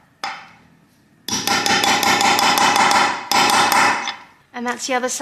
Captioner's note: hammering sounds